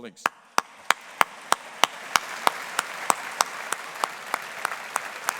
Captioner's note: audience applauding